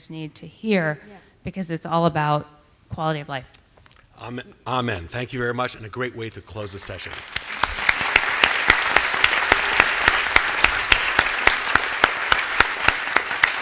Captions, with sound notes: need to hear because it's all about quality of life. Amen. Thank you very much, and a great way to close the session. [APPLAUSE]